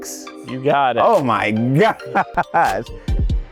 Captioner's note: laughs; upbeat music fades out